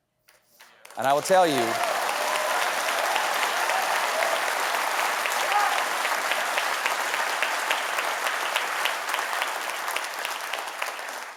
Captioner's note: applause